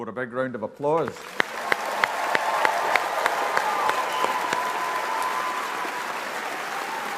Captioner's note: audience applauding